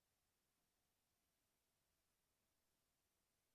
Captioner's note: none